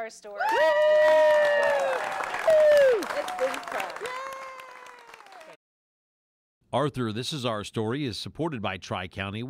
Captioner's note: cheers and applause